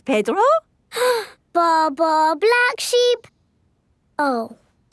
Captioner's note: inhales